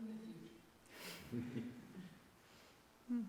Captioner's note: laughter